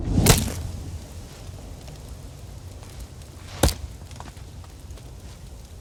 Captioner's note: chopping sound; rain storm sounds